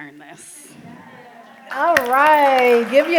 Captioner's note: applause